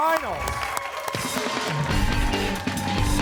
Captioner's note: applause